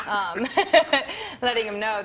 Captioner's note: laughing